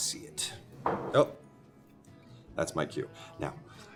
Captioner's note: glass clanks